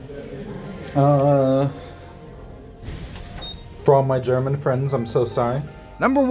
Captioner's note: elevator beep noise